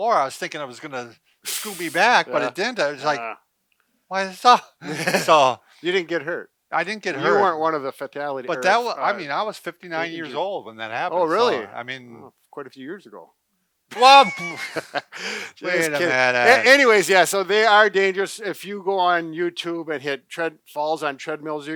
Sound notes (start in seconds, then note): 13.9 laughing